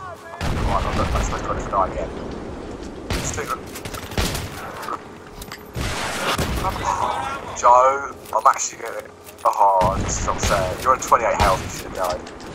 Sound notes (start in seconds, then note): 6.6 sighs